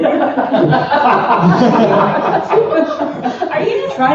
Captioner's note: laughter